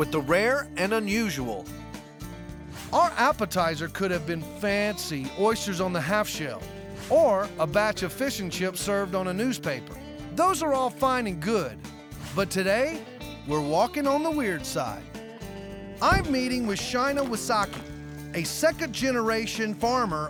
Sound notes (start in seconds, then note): none